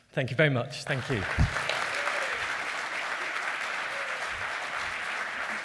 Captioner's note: applause